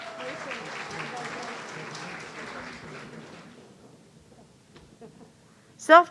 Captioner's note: audience cheering